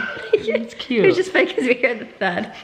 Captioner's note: laughs